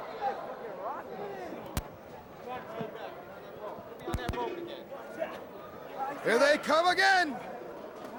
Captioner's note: crowd chatter